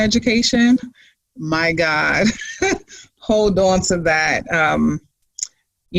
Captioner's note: laughs